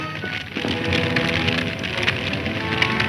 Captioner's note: fire crackling; intense orchestral music